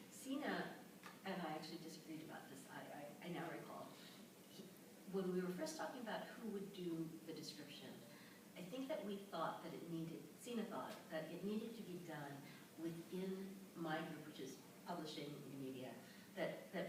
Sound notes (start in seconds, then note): none